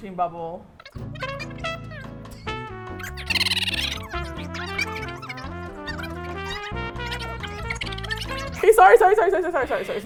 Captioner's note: voices sped up to chipmunk speed